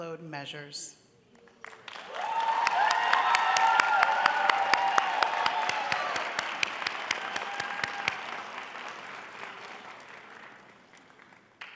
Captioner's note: applause